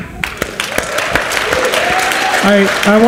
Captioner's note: audience cheers and applauds